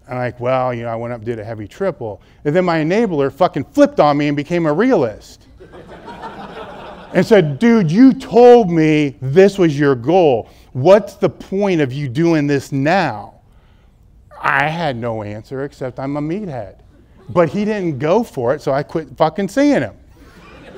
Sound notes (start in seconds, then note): 5.6 audience laughs; 20.2 laughter